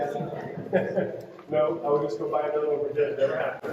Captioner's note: laughs